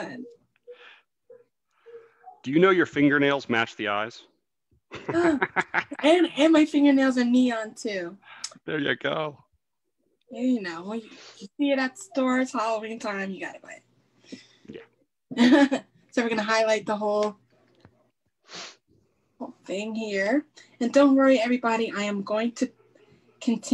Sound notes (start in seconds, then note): 5.0 laughs; 14.5 chuckles